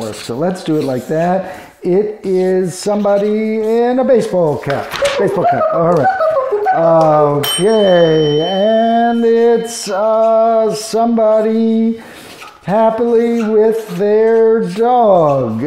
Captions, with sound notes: So let's do it like that. It is somebody in a baseball cap. Baseball cap. All right. (box beeping) Okay. (bell rings) And it's somebody happily with their dog,